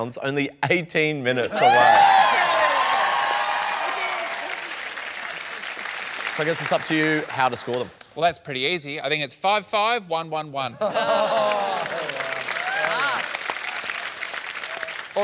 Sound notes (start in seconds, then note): 1.5 cheering and applause; 11.2 applause